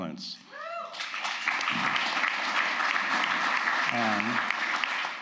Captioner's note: applause